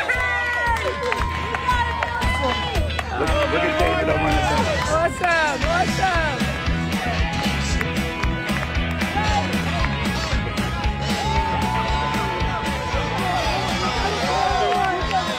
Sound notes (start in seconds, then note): 3.2 applause; 3.2 cheering